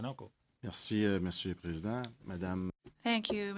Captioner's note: speaking French